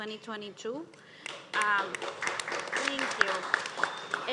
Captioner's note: group claps